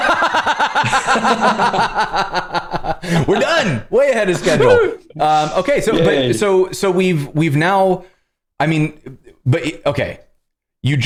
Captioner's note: laughter